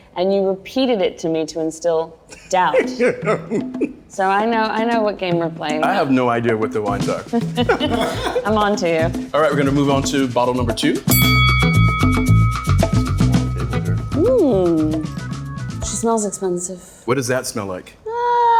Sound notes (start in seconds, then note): 11.1 bell dings; 12.0 groovy music